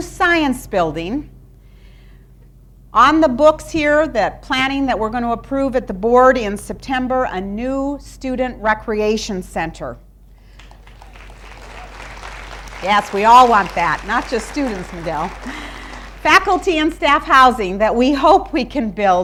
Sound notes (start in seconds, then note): 10.5 applause